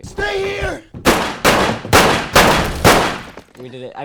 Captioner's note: gun shooting